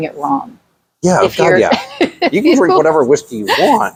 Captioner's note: laughs